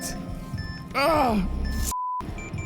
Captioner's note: Carter groans; beeping continues